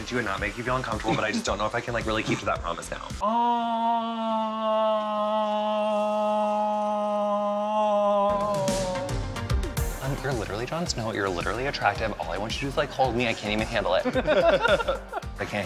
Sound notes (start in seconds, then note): 3.2 exclaims; 14.0 laughs